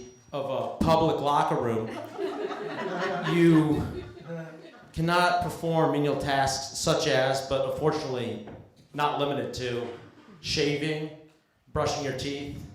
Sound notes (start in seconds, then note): 1.8 laughter